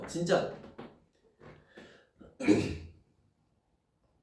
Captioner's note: clears throat